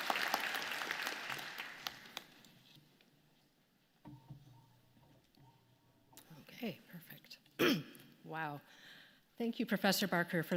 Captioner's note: applause